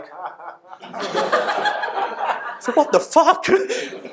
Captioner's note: audience laughter